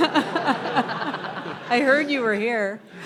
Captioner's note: people laughing